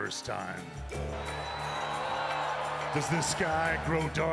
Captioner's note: audience cheers